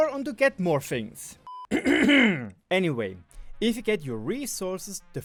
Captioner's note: clear my throat